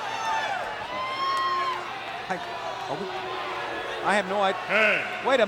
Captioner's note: audience cheers